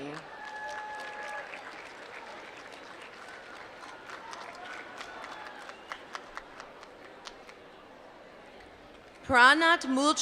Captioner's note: applause